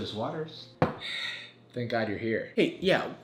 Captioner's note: sighing